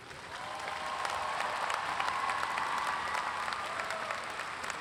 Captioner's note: audience claps and cheers